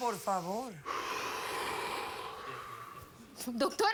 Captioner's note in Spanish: Exhalación profunda de él